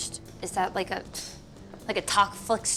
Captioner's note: scoffs